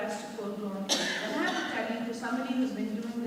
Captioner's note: coughing drowns out speaker